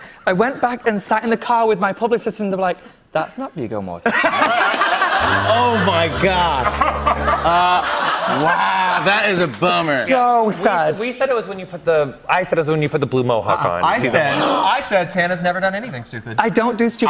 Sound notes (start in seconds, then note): 4.0 laughter